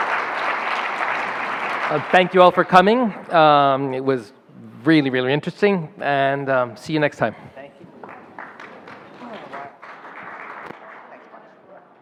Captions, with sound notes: Thank you all for coming. It was really, really interesting, and see you next time. (murmuring)